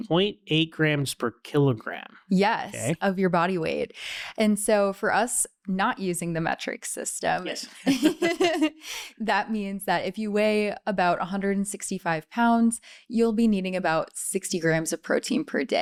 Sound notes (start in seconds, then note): 7.4 laughing